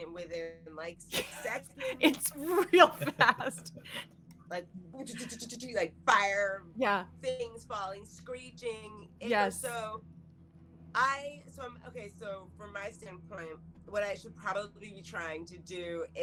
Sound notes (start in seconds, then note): 5.0 imitates fire bombing